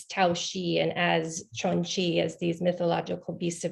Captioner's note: speaks in foreign language